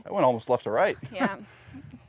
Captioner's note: laughs